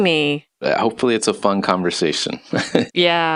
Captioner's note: laughs